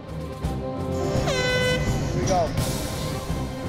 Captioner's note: horn blows